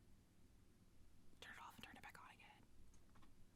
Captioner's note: whispers to Fraug